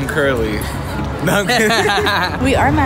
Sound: laughing

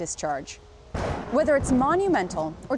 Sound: lightning crashing

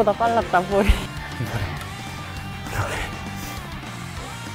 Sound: the gasping of the team

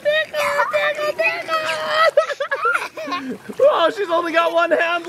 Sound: laughs

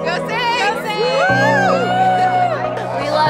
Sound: cheering

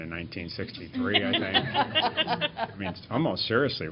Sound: laughter

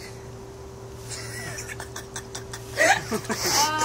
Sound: boys laugh

